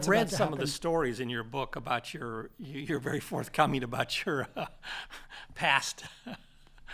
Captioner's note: laugh